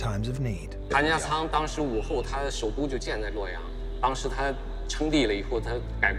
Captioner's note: speaking in foreign language